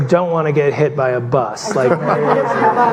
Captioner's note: murmurs